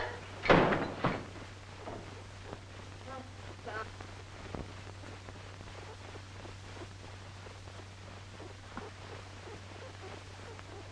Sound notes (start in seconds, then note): 0.4 door thuds